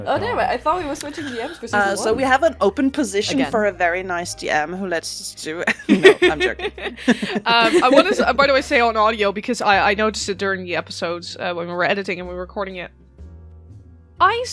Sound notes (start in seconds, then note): 5.7 laughs